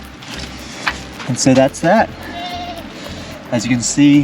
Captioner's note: goats bleating